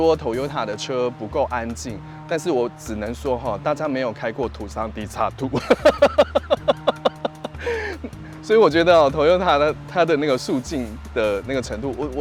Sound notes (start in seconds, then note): 5.6 laughs